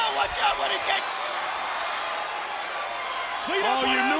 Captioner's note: crowd cheering